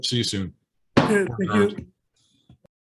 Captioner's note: sounding gavel